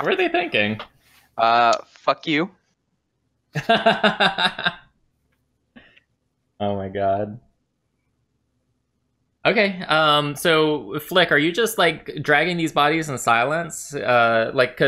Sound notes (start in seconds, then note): 8.0 laughter